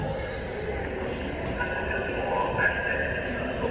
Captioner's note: crowd bustling